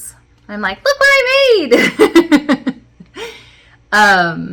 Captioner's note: chuckle